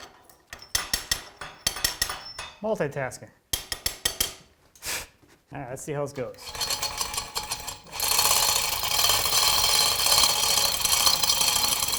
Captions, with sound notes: Multitasking, all right, let's see how it goes. (chain rattling)